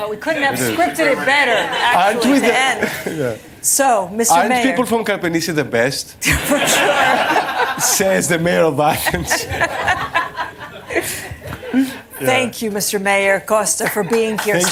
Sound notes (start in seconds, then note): 6.2 laughter